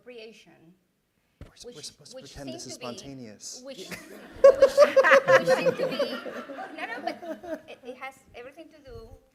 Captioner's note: laughter